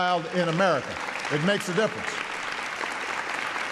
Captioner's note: applause